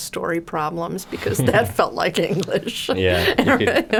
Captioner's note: laughing